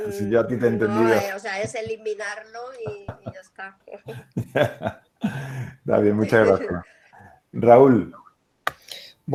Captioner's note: laughs